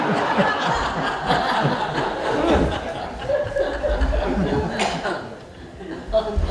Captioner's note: laughter